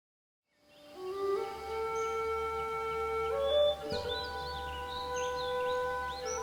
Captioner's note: gentle melodious music; birds chirping